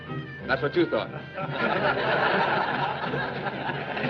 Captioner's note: laughter